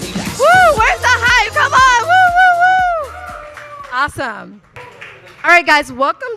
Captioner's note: upbeat music; cheers